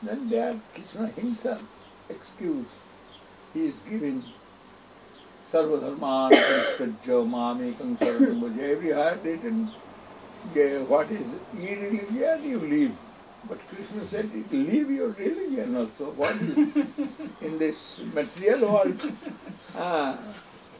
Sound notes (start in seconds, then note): 16.1 laughing